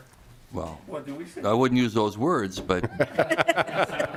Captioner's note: laughing